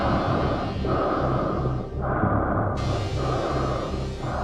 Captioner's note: breathing hard continues